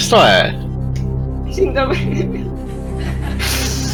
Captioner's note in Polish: śmiech